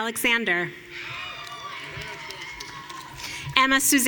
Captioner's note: audience cheering